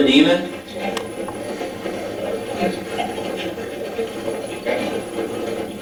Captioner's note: static playback transmitting